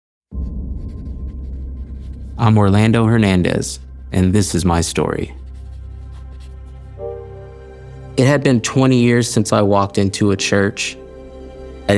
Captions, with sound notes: (gentle music) (pen scratching) - I'm Orlando Hernandez, and this is my story. (gentle music) It had been 20 years since I walked into a church.